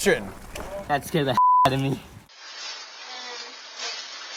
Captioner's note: beep